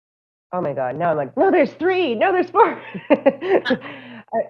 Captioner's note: laughter